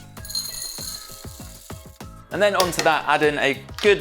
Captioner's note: granola clatters